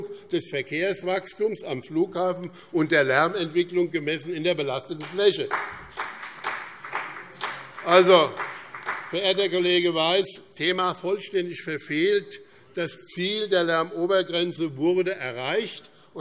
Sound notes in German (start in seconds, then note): 4.9 Beifall BÜNDNIS 90/DIE GRÜNEN und CDU